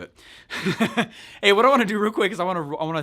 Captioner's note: laughs